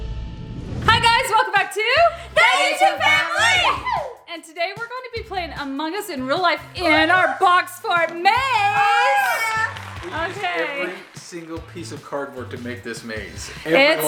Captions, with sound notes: - Hi guys, welcome back to... - [In Unison] That YouTub3 Family! - And today we're going to be playing Among Us in Real Life in our box fort maze! Okay. - We used every single piece of cardboard to make this maze.